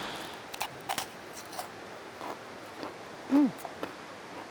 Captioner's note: cookie crunching